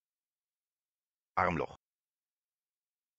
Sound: fast Pronunciation

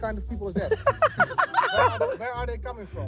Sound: laughing

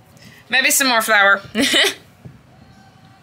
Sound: laughs

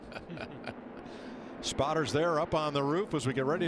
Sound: laughs

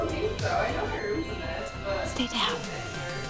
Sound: distant talking

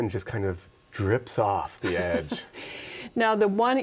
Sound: chuckles

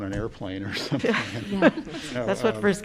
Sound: laughter

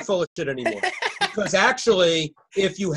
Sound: laughing

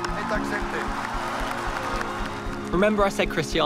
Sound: speaking in foreign language; crowd cheering and applauding

